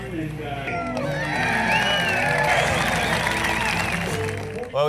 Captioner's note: applause